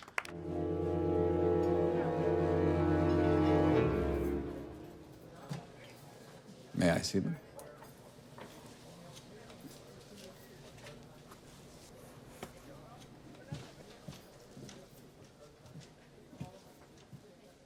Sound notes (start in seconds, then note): 0.3 suspenseful music; 9.0 diners chatting